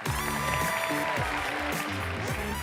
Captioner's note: audience applauds; pop Music